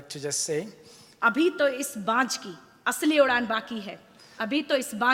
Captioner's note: speaks foreign language